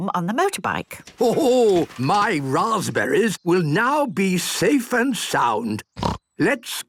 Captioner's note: snort